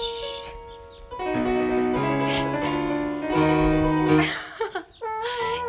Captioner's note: laughs